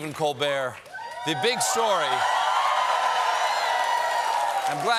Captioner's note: cheers and applause